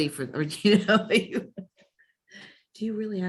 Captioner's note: chuckles